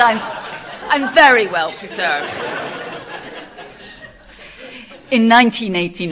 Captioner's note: laughter from audience